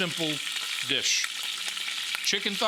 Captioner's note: oil sizzling